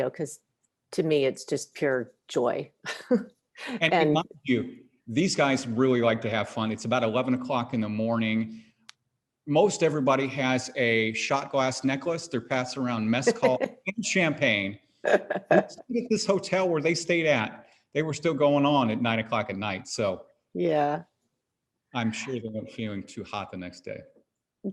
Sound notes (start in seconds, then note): 3.7 chuckles; 15.0 laughs